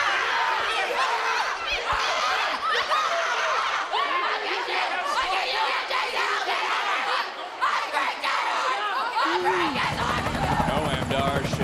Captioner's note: yelling